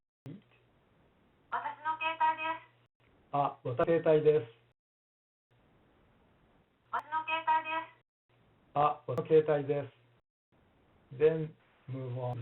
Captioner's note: japanese Spoken